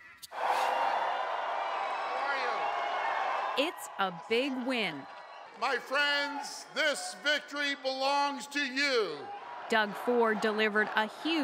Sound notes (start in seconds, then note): 5.0 cheers and Applause